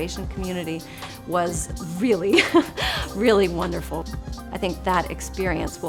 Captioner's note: chuckles